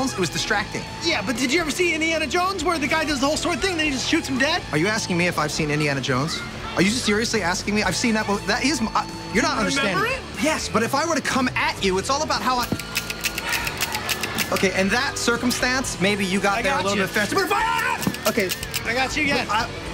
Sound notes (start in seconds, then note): 12.6 toy gun clicks; 16.8 yells; 18.0 toy gun clicks